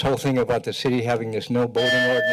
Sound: bell rings

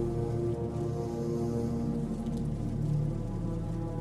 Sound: none

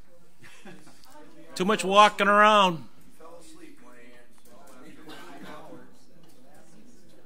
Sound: overlapping chattering

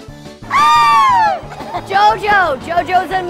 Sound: screaming

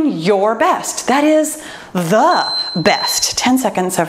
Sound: timer beeps

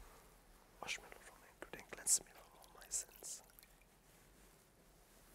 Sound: whispering

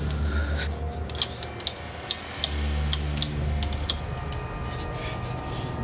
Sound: light switch clicking

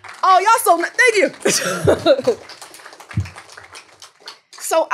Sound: applause

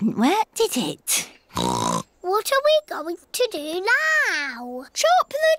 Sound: oinks

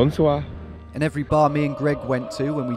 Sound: speaking foreign language

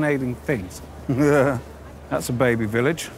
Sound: laughs

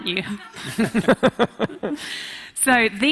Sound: speakers laughing

